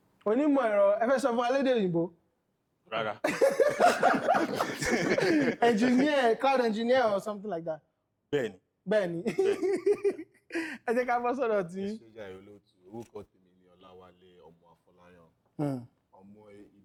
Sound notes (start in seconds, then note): 3.2 everyone laughs; 9.2 laughs